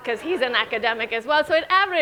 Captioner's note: audience laughing